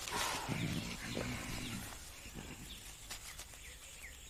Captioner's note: fly buzzing